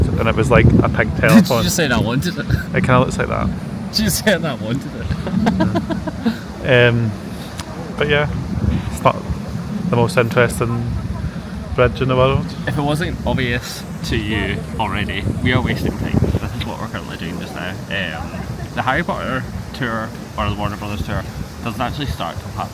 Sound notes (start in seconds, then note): 5.0 laughs